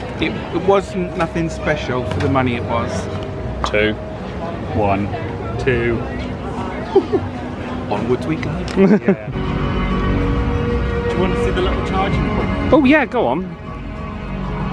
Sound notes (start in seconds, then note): 6.8 laughs; 8.9 exciting music